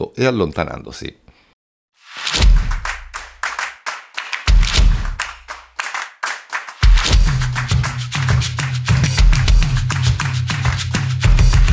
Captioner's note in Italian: Applauso